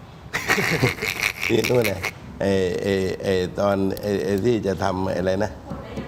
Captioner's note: laughs